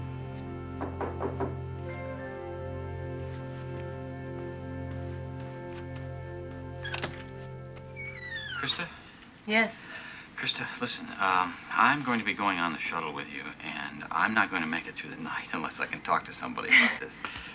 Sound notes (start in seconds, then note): 0.8 knocking